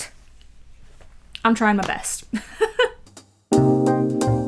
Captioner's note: laughs; jazzy outro music